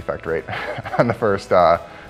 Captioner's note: laughs